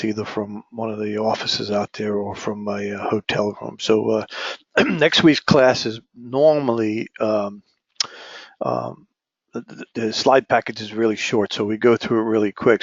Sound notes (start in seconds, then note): 4.6 cough